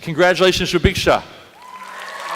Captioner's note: applause